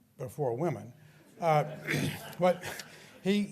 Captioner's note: laughter